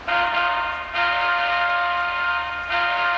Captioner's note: driver honking horn